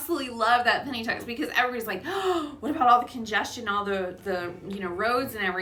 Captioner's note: gasp